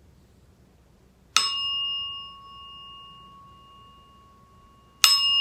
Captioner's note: rings bell